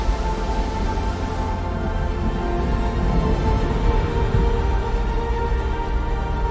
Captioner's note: low thunder rumbling